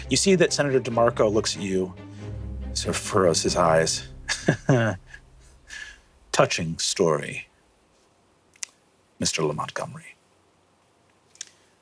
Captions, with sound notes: You see that Senator DiMarco looks at you, sort of furrows his eyes. (begrudging laugh) "Touching story, Mr. LaMontgommery.